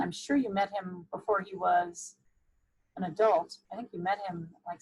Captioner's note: none